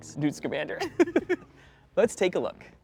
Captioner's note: laughter